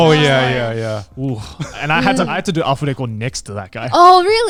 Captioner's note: speaking in Japanese